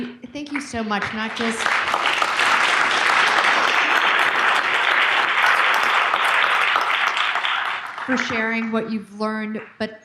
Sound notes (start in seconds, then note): 0.4 audience clapping